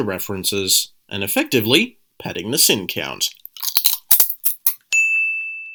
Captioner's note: crunch